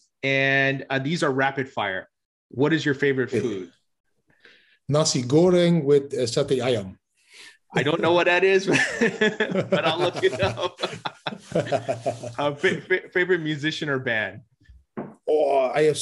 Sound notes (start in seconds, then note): 8.7 laughs; 11.9 laughing